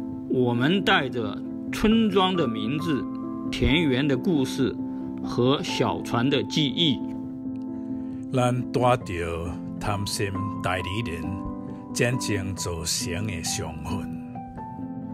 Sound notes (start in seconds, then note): 0.1 Mandarin; 8.2 Taiwanese